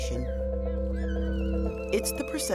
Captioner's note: playful screaming